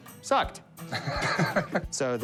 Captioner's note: laughs